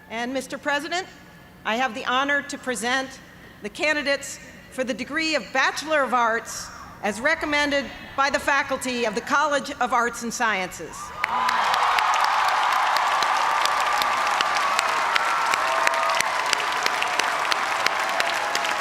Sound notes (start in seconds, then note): 11.0 cheers and applause